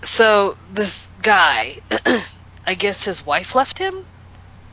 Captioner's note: clears throat